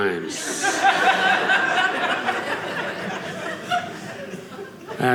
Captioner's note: audience laughing